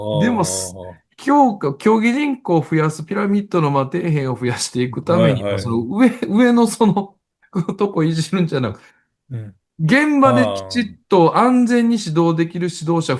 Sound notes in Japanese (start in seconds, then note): 10.3 笑い